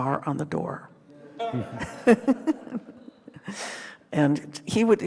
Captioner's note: group laughing